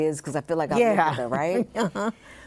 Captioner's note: laughs